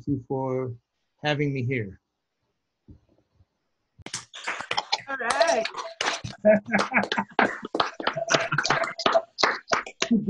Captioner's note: clapping; laughs